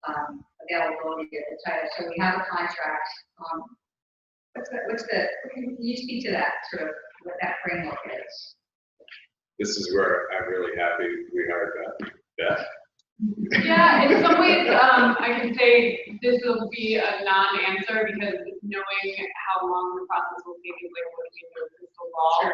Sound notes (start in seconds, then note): 13.3 laugh